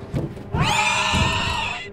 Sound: shrieker noises

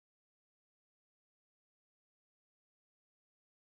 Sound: none

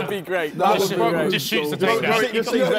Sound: men laughing

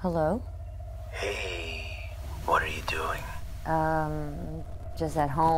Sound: on phone

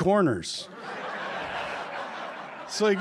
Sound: laughter

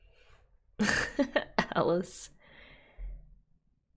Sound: laughs

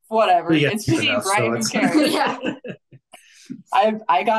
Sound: everybody chattering

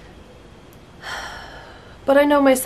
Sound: sigh

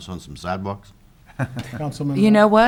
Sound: laughing

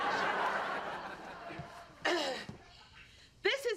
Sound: clears throat

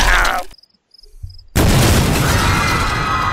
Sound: kaboom

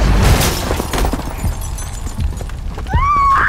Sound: glass clattering; Karolina screaming

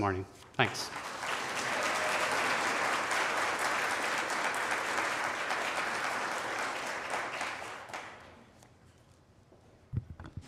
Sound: applause

